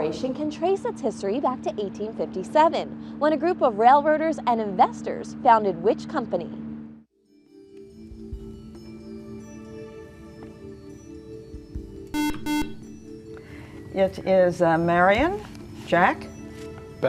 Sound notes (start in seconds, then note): 12.1 beeping